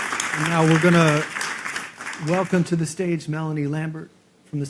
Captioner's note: applause